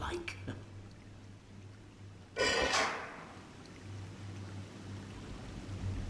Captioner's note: clink